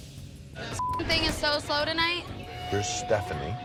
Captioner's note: beep